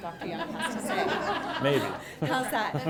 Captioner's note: audience laughs